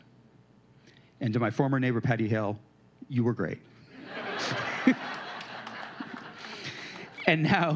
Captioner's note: laughter